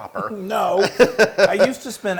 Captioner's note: laugh